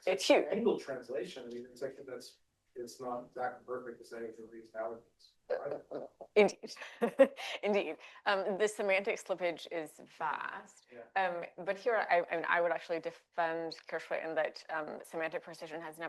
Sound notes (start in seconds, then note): 5.5 chuckles